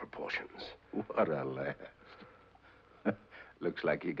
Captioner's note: chuckles